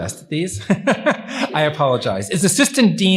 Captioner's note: laughs